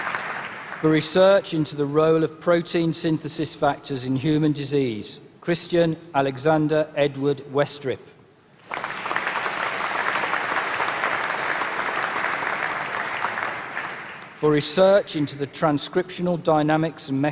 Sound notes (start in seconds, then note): 8.5 applause